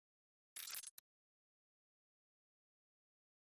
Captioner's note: audio glitches